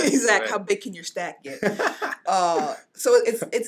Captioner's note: laughing